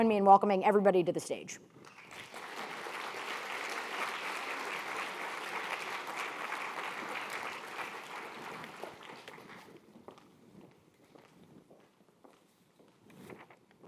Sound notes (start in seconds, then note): 1.8 audience clapping; 9.3 footsteps pounding